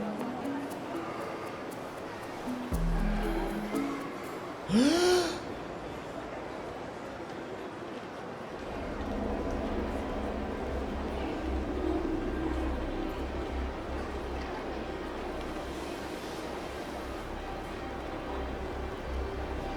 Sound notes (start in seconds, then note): 4.7 someone tekes a deep breath in the background; 12.0 eerie music playing